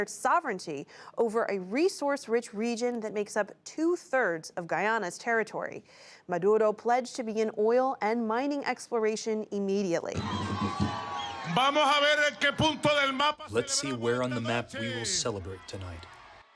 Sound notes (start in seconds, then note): 13.8 through translator